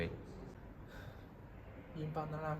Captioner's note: sigh